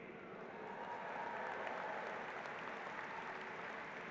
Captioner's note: applause